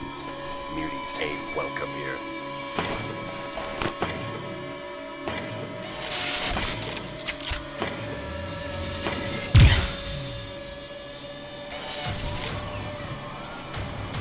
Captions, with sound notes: Muties ain't welcome here... [MECHANICAL NOISES] [ARM CANNON CHARGE]